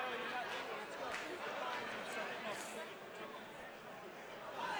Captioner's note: crowd chatter